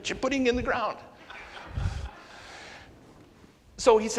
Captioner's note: audience laughs